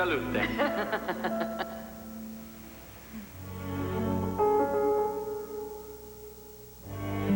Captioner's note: speaking italian